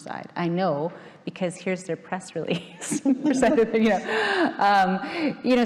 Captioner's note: laughing